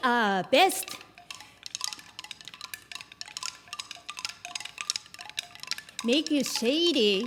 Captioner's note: wooden chimes